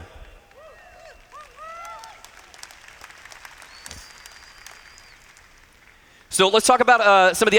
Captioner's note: applause